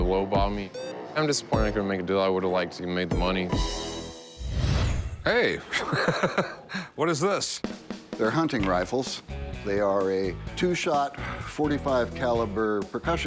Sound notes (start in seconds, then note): 5.6 laughs